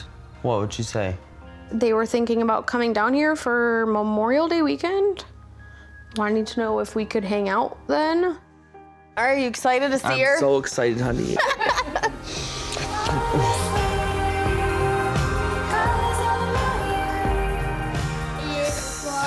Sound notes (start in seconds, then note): 11.2 she laughs; 13.1 peaceful music